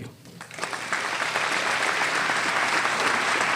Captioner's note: applause